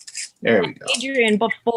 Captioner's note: shallot peel rustling